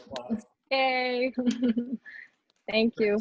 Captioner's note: laughs